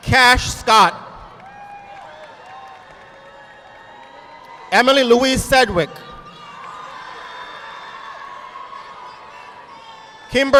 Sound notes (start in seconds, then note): 1.2 audience applauding